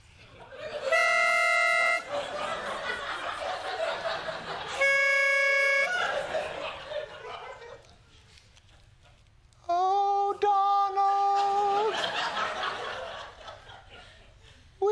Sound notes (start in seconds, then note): 0.8 blows pitch pipe; 1.9 laughter; 4.8 blows pitch pipe